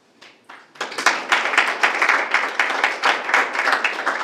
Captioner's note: group clapping